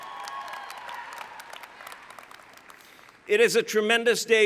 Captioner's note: cheering